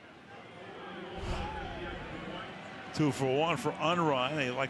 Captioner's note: pa announcement